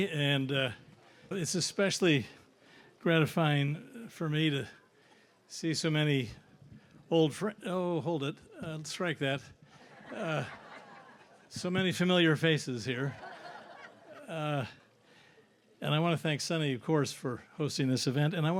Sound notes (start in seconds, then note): 9.7 audience laughs